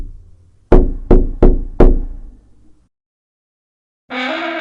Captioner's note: someone knocking